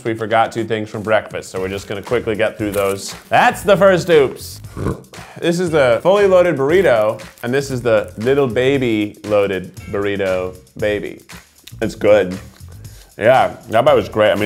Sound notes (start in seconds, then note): 4.6 burping